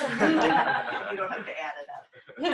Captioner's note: laughter